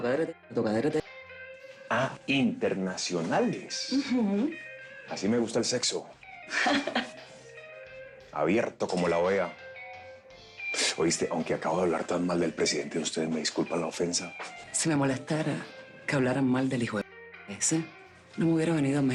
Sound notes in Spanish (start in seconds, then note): 6.5 Risas